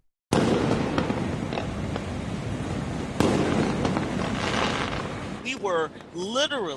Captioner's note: fireworks